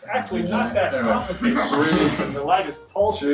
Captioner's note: laughter